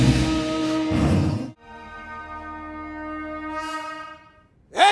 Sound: conch blows

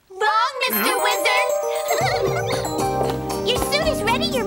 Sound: triplets giggle

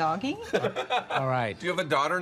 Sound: laughing quickly

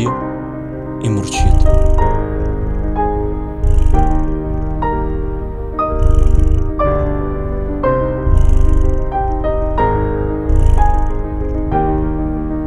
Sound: purr

